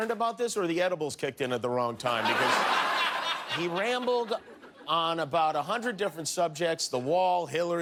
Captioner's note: cheers and applause